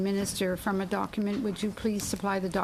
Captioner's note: speaking French